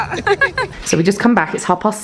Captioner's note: both laugh